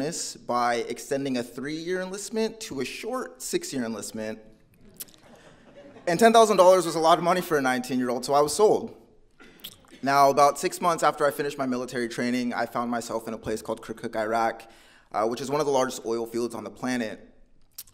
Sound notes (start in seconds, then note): 5.2 audience laughing